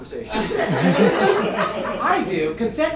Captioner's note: audience laughing